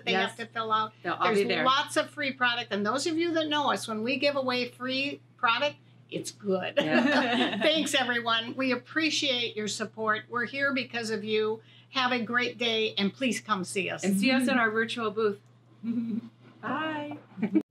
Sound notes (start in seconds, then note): 6.8 all laughing